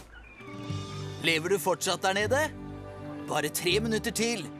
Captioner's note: on walkie-talkie